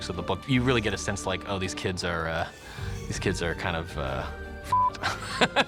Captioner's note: beep